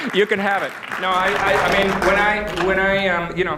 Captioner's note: applause